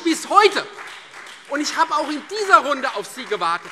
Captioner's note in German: Beifall Freie Demokraten und vereinzelt SPD